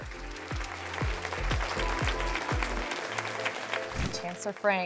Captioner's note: crowd applauds